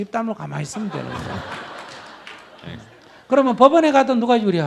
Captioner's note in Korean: 청중 웃음